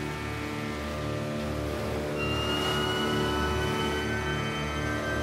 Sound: siren blares

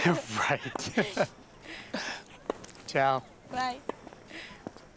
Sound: laughs

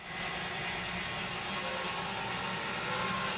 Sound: saw revving

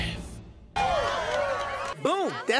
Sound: cheering

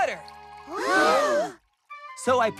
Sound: all Gasp

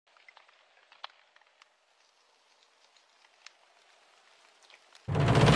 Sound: sizzling

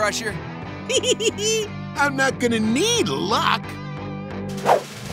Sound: laughs

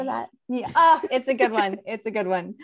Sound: laughs

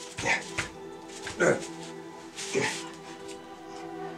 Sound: grunts

